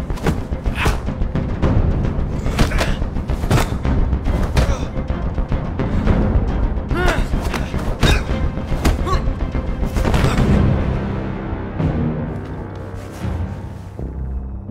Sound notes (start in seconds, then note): 2.4 groaning; 6.8 groaning; 6.9 grunt